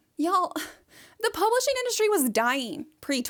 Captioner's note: none